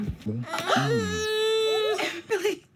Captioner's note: crying; gasps